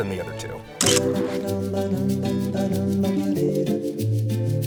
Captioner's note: camera clicking